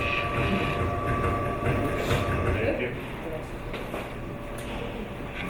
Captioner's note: gears clicking and turning